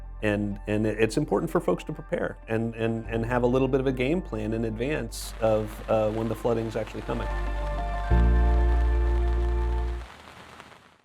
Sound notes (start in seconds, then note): 8.0 gentle music; 8.0 rain pattering